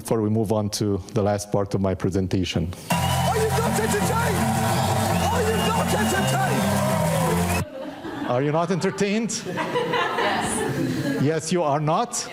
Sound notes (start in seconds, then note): 9.4 audience laughing